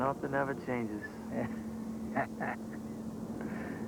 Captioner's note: chuckles